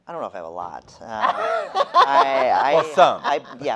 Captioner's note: laughing